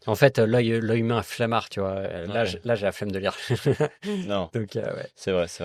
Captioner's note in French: rires